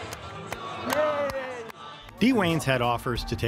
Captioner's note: clalapping